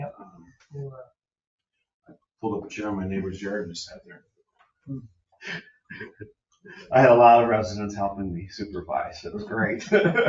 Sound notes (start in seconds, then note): 5.9 laughs